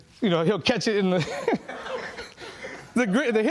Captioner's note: laughing